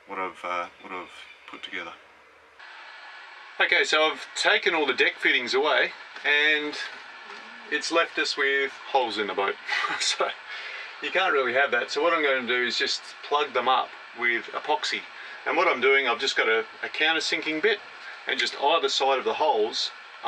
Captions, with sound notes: What I've, uh, what I've put together. Okay, so I've taken all the deck fittings away. And, it's left us with holes in the boat. (laughs) So you can't really have that. So what I'm going to do is just plug them up with apoxy. And what I'm doing, I've just got a countersinking bit. And just out of the side of the holes,